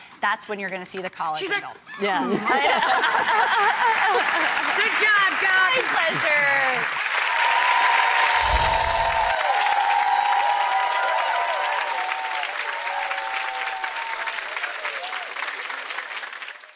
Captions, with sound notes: that's when you're going to see the collagen help. She's like hm-mm. (audience clapping) Good job, Doc. My pleasure. (audience cheering) (whooshing) (chimes tinkling) (chimes tinkling)